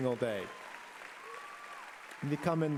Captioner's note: applause